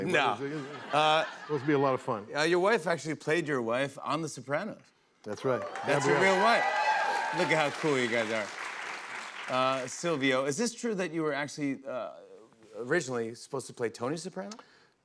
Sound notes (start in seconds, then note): 8.6 cheers and applause